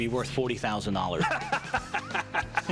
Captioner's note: laughter